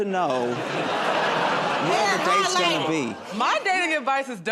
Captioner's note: laughter